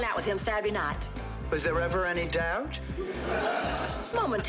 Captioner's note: laughs